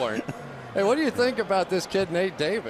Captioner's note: laughs